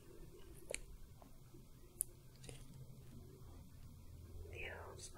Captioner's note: soft brushing